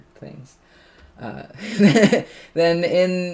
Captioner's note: laughs